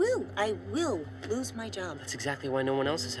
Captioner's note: none